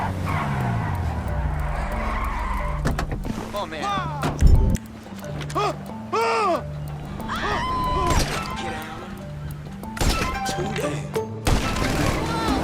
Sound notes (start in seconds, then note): 0.0 tires screeching; 2.8 door opens; 3.8 man screaming fearfully; 7.2 woman screaming; 8.2 gunshot; 11.6 car revving